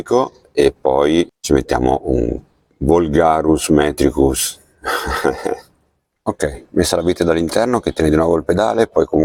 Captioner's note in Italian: sbuffare; schiarire la voce